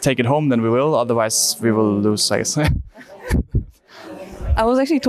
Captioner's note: laughs